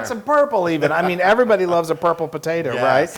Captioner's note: laugh